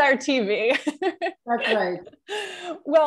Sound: laughter

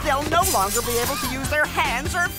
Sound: evil laughter

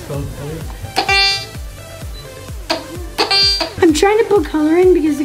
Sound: metal detector beeps

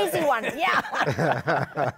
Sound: laughter

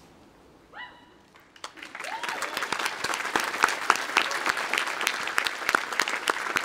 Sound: audience applauding; audience whooping

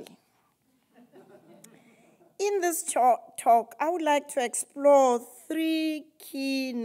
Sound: laugh

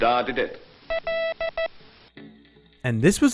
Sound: letter being sent by morse code

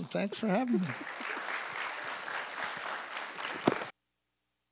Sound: audience applauds

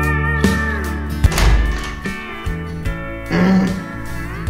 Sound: door opening sound

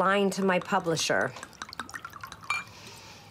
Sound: liquid pours in glass

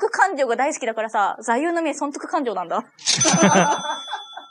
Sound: laughs

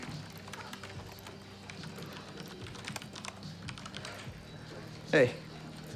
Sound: keyboard clicking

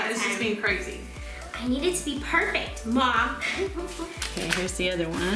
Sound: laughing

